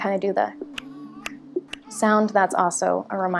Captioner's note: clicks tongue steadily